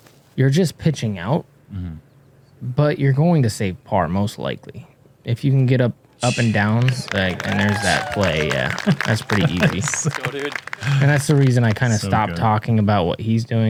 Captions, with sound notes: you're just pitching out but you're going to save par most likely. If you can get up and downs-- [cheering] [applause] -There's that play. That's pretty easy. That's the reason I stopped talking about what he's doing